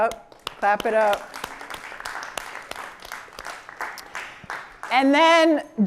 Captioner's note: applause